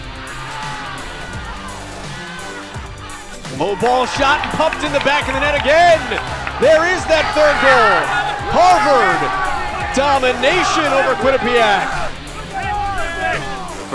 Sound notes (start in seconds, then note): 7.6 cheering, applause; 12.1 cheering, applause